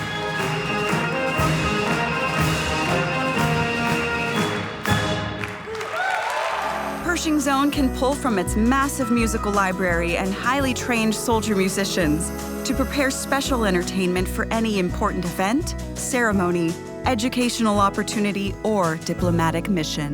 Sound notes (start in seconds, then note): 0.0 instrumental music; 6.0 audience cheering